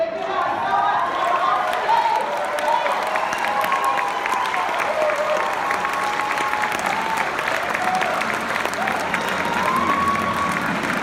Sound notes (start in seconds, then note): 2.0 clapping